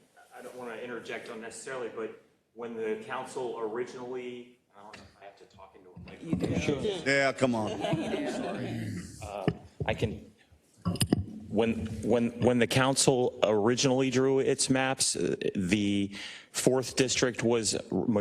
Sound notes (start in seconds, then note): 6.4 laugh